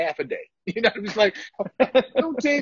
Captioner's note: laughter